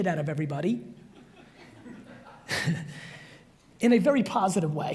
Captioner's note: audience chuckles